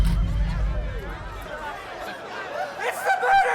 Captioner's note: door thuds; ominous music; crowd chattering